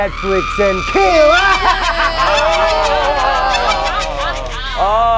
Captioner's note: screaming